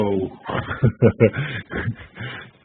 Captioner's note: laugh